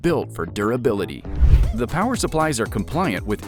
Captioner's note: graphic whooshing